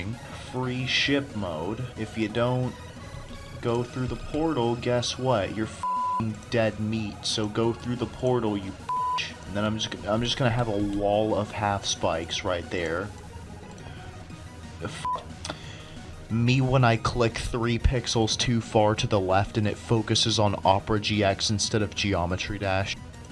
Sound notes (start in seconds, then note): 15.1 tch